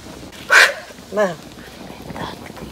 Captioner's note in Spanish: soplo fuerte; hablando en idioma K'iche'